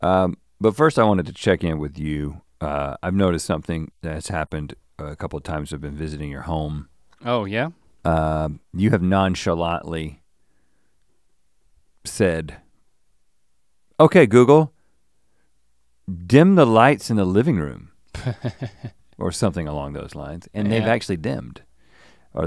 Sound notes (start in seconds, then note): 18.1 chuckles